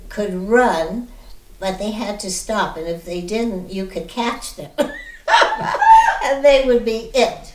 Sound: laughing

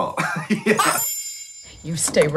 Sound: both laughing; soft chiming

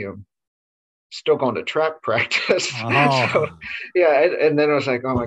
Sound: laughs

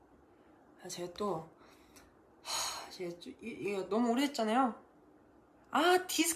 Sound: sigh

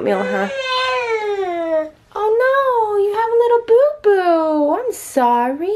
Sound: babbles

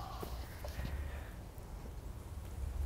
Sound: sighs

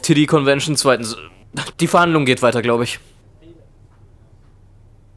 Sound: stammers

